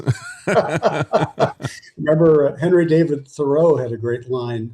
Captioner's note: laughing